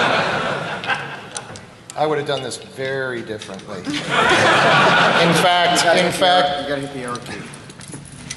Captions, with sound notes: ? >> [Laughter]. ? >> I would have done this very differently. ? >> [Laughter]. ? >> In fact